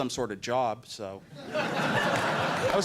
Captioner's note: laughter